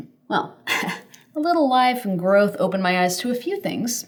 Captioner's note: chuckles